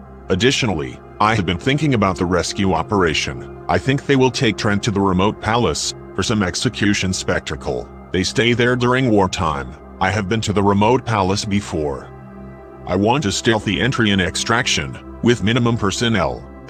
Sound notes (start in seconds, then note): none